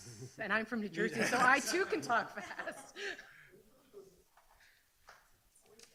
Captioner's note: laughs